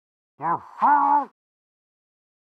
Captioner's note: muffled jeer